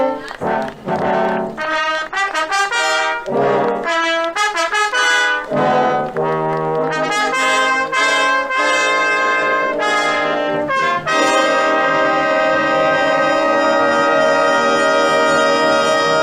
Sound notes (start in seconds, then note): 0.0 people chattering